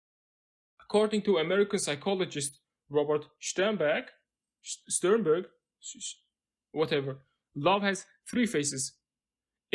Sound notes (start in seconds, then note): 3.9 german accent